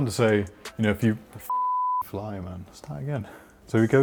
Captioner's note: beep